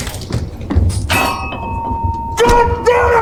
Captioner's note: body thumps; glasses ringing